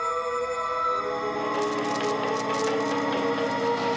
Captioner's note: electricity crackles